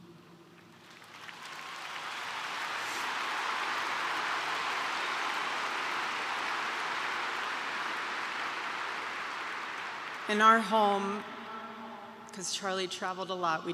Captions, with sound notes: (applause) In our home, because Charlie traveled a lot,